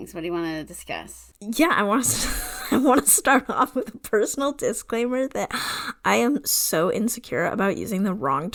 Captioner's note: laughing